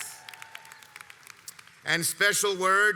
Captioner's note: audience applauds